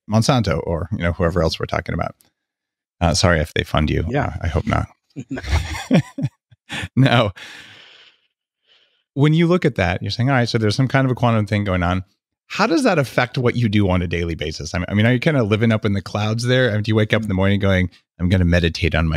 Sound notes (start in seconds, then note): 5.2 laughing